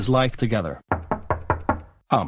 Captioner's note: door knocking